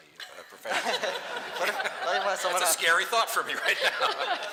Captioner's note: laughter